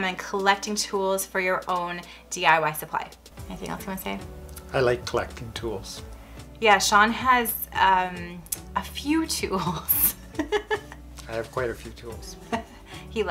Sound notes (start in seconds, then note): 10.3 laughs